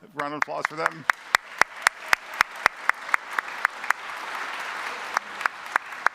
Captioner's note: congregation applauding